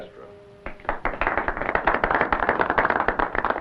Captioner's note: applause